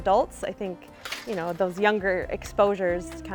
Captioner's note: gate clanking